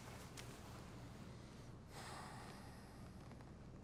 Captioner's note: sighs